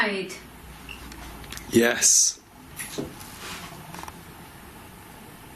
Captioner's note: device chirps